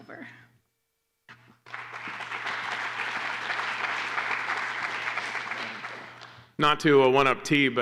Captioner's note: applause